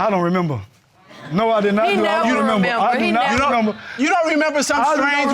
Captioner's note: stammers